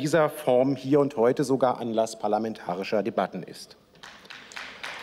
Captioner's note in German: Beifall